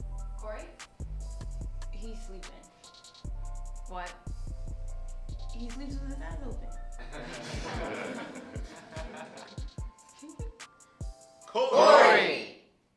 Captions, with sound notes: Corey? He's sleeping. what?...he sleeps with his eyes open...(students laugh) COREY!!!